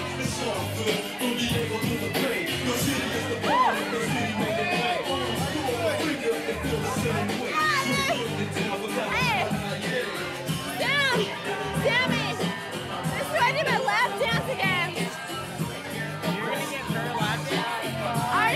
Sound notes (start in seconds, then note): 7.5 girl shouting